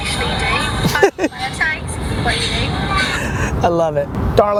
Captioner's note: laughing